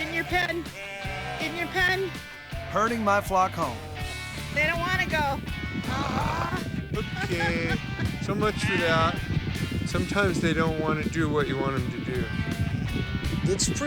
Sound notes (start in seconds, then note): 5.5 laughing